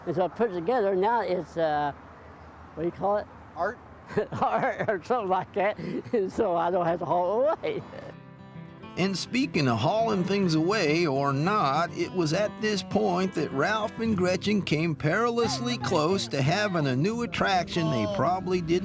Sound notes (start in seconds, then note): 4.1 laughing